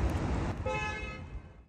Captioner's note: car horn honking